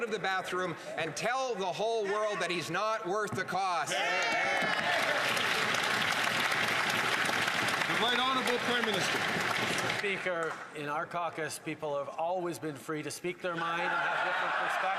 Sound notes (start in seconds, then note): 8.1 some Applause